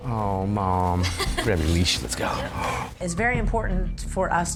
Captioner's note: laughing